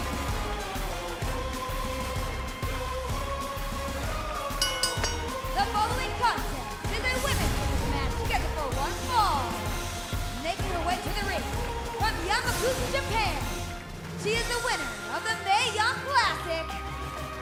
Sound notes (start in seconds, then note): 4.5 bell ringing